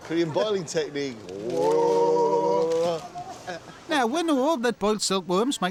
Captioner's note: all mimicking boiling sounds, laughs; mimics boiling sounds